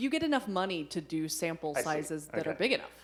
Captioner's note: laughing